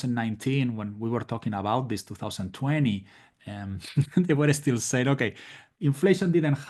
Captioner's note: laugh